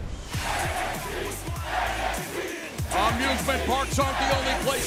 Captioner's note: fans chanting